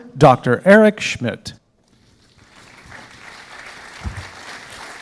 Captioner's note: applause